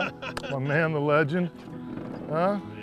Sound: laughter

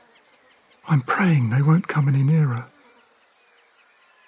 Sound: whispers

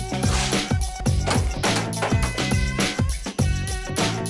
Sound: lively music; hammer thumping; lively music

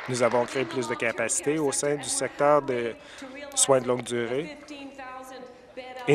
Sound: applause

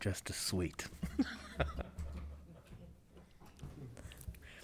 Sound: members laughing

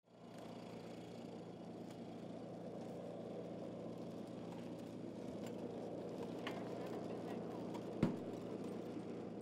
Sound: sound of cart rolling

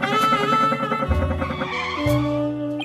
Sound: car Skid

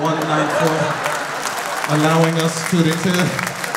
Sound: audience laughing

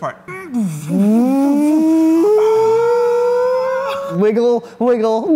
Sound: making vroom noises

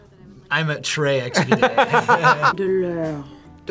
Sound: both laugh

